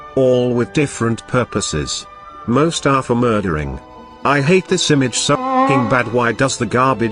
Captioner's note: jelly honk